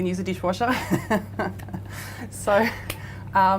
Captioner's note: laughing